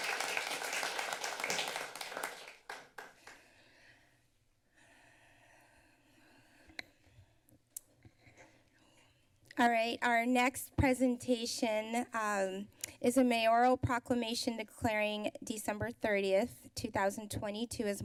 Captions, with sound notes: -All right. Our next presentation, um, [clicks tongue] is a Mayoral Proclamation declaring December 30th, 2022,